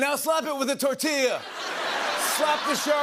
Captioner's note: laughter